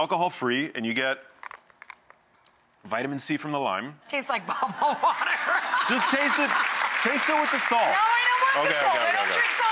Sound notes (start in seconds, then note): 4.6 laughing; 5.2 audience applauding